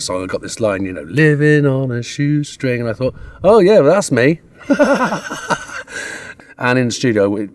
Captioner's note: laughs